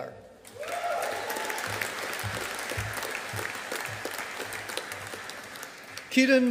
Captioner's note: audience applauding